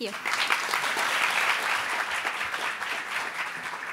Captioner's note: applauding